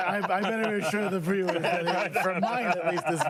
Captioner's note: laughter